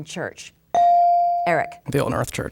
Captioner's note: bell dinging